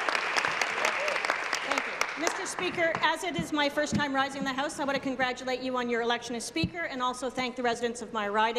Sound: applause

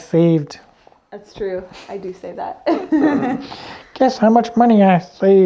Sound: laughs

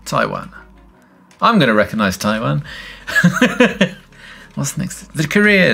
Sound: laughs

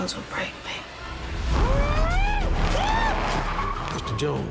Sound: yelping

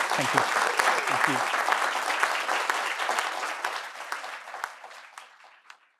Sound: audience clapping

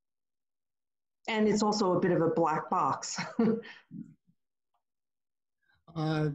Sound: chuckles

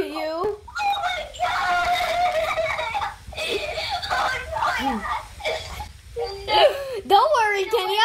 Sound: screams

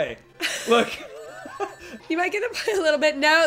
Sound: laughing

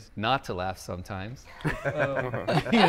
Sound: group laughing

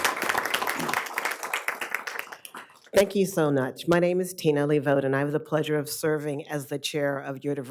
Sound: applause

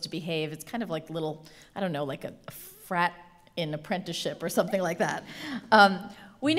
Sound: laugh

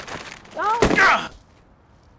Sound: Tasha shouts

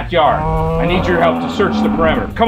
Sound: dinosaur sound

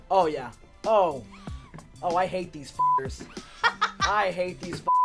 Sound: laughing

